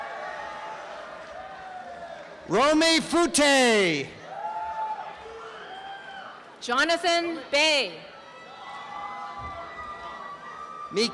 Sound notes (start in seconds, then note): 0.0 applause and cheering; 8.2 applause and cheering